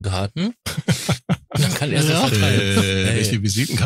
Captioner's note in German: lachen